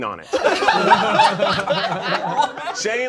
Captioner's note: all laughing